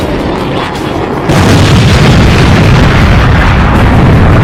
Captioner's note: plane explodes